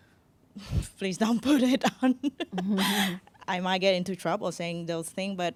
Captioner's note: laughs